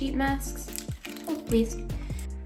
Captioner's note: package crinkles